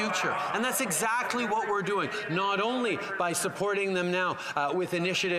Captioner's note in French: voix de l'interprète